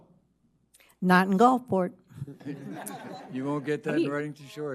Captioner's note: audience laughing